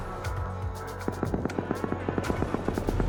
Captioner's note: gunfire in distance